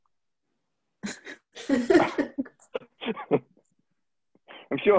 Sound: all chuckle

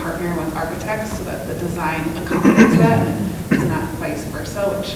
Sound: coughing drowns out speaker

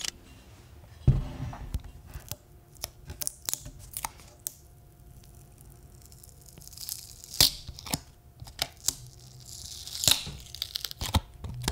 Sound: sounds of a camera taking a picture; sounds of peeling a sticker off a watermelon

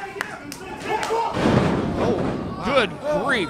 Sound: arena bangs

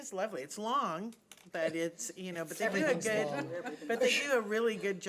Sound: laughing drowns out speaker

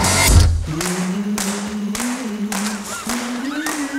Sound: humming

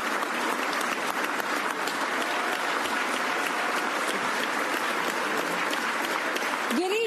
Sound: applause

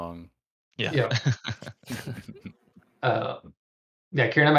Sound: laughter

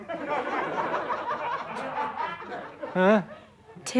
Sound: audience laughter

